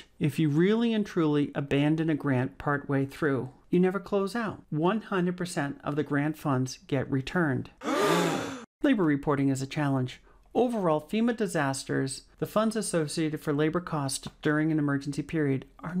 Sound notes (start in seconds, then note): 7.8 gasping